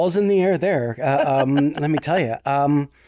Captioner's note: laughing